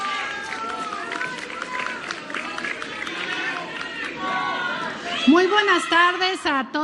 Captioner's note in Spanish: aplausos